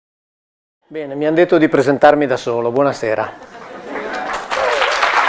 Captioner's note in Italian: Applauso